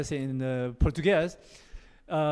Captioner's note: portuguese